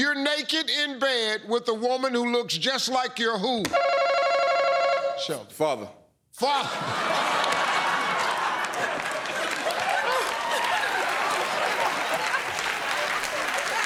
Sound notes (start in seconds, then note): 6.5 laughter; 10.5 cheers and applause